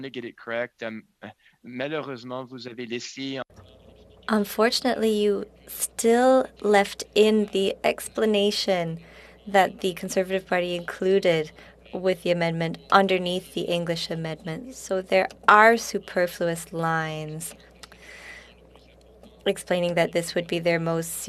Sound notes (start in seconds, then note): 6.1 speaking French